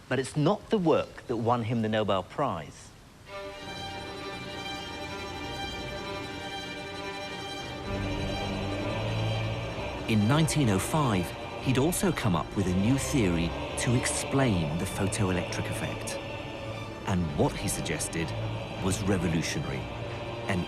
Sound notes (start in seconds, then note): 3.7 dramatic instrumental music; 10.2 voiceover